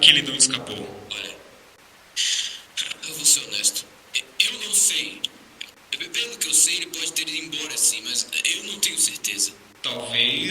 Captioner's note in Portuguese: suspiro